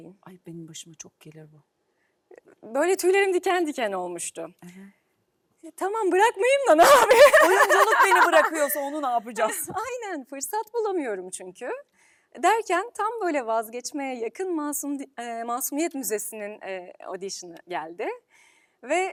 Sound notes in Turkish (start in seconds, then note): 6.8 kahkaha